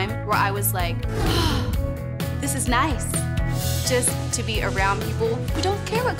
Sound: sighs

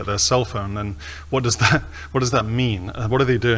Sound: chuckles

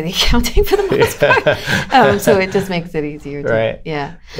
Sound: laughter

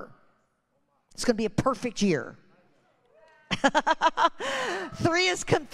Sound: laughs

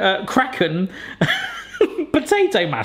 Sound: laughing

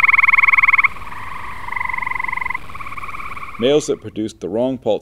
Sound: slower trilling sound

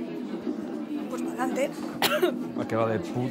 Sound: coughs

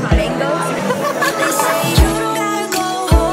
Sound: laughs

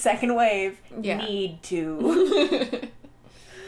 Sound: laughter

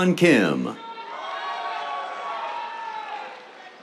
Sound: cheers, applause

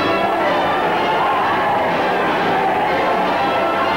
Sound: crowd cheering

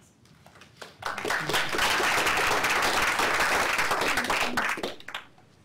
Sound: applause

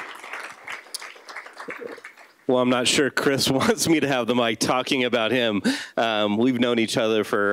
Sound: applause

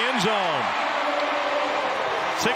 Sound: crowd

